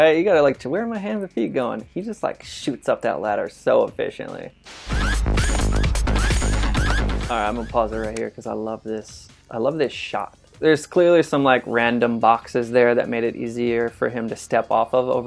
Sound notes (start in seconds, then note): 4.6 static noise; 4.6 dramatic music